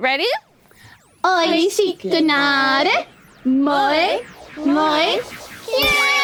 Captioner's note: speaking foreign language